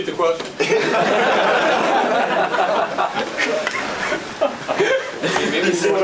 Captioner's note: audience laughs and applauds